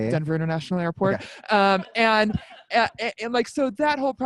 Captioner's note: laughs